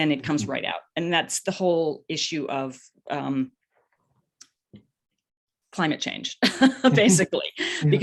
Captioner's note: laughs